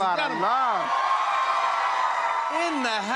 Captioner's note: audience cheering